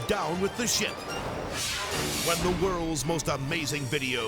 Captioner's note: graphics whooshing